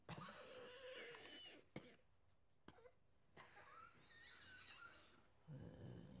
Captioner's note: coughing; coughs